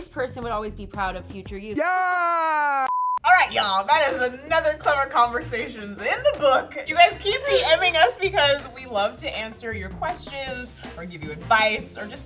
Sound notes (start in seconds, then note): 6.8 laughs